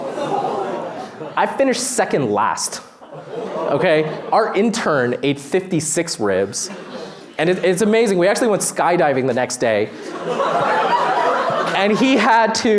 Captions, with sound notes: (audience groans) I finished second last. (audience groans) Our intern ate 56 ribs. It's amazing. We actually went skydiving the next day. (laughter)